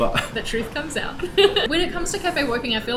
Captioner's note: laughs